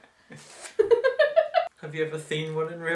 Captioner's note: confused giggling